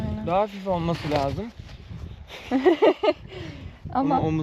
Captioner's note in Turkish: kahkaha